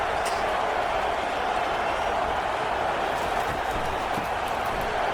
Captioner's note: crowd Noises